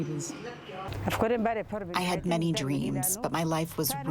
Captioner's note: through translator